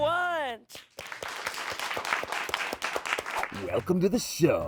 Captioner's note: everyone applauds